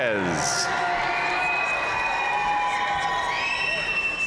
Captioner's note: audience cheering and applauding